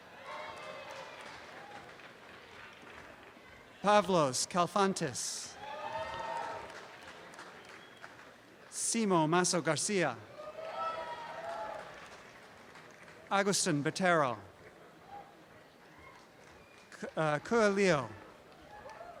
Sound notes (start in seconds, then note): 0.0 applause and cheering; 5.5 applause and cheering; 10.2 applause and cheering